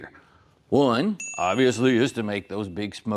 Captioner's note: ding